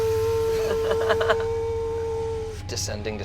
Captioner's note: lift whirs